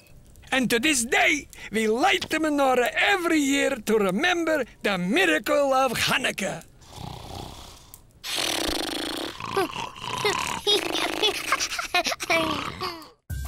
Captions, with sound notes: And to this day, we light the menorah every year to remember the miracle of Hanukkah. [snoring] [laughing]